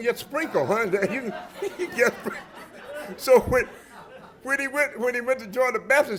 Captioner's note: laughter